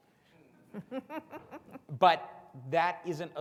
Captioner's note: all laughing softly